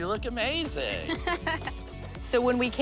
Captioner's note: laughs